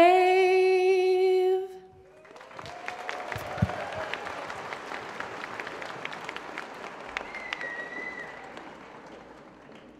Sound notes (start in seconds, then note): 2.0 applause